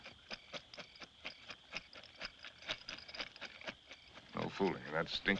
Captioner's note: rattling